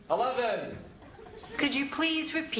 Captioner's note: laughter